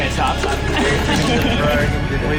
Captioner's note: chuckling